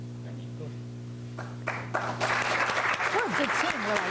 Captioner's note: applause